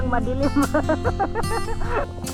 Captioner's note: laughs